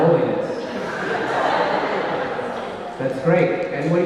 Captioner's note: audience laughing